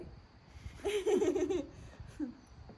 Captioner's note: laughs